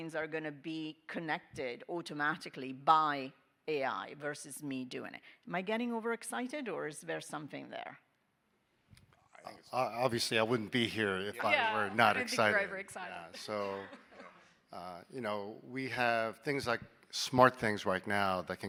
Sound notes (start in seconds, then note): 13.3 chuckling